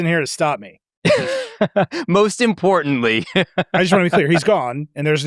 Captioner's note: laughs